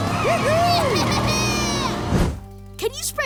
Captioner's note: cheering